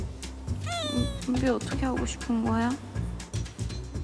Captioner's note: sniffle sniffle